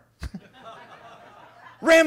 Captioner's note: attendees laughing